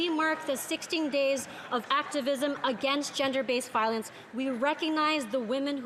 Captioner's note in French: voix de l'interprète